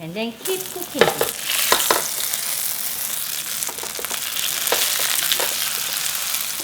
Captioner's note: sizzling